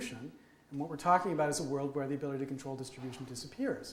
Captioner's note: none